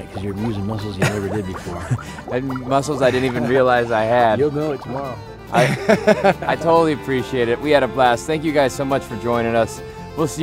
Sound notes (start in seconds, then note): 5.5 laughing